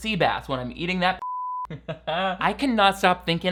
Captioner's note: beeps